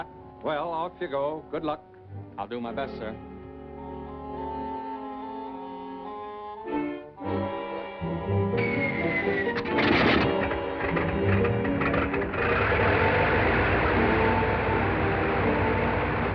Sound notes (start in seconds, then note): 3.1 suspenseful music; 6.3 dramatic music; 8.5 plane whirring; 8.6 whistle blowing